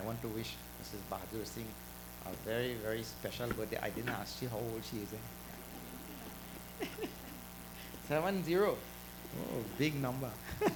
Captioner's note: laughter